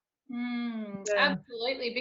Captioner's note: exclaims